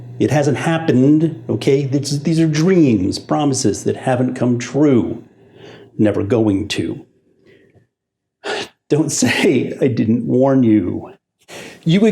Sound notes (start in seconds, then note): 8.4 sighs; 9.2 chuckles